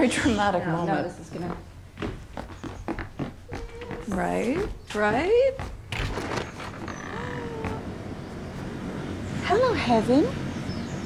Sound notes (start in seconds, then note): 7.0 gasps